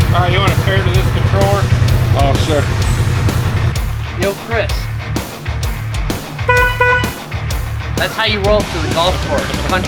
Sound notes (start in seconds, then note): 6.4 horn honking